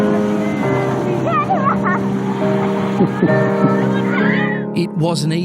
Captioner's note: child laughing